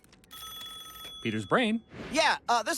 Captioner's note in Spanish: teléfono sonando